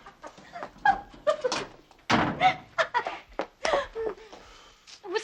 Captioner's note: laughing